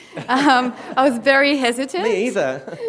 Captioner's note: laughter